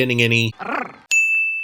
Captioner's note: love growl